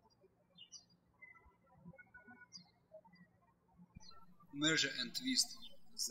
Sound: birds chirping

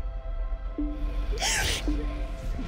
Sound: sobs

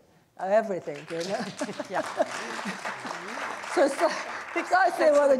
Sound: audience applauding

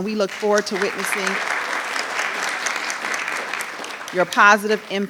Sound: audience applauding

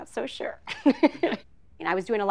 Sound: laughs

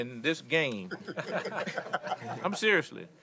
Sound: laughter

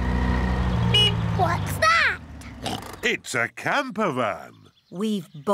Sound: horn honks; oinks

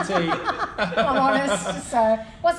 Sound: laughing

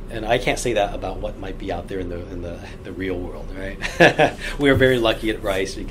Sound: laughs

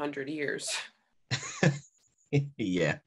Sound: Cal chuckles

